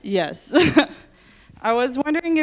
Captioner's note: laughs